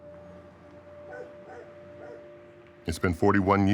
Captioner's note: dog barking